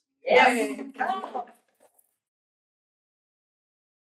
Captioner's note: cheering